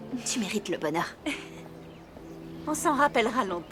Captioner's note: chuckling